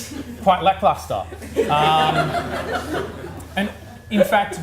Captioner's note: audience laughs